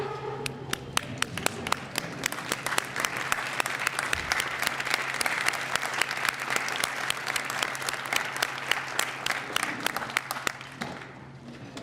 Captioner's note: applause